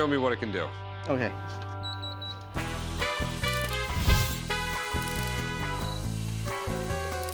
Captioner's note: beeping